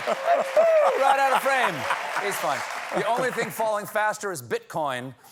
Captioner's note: laughter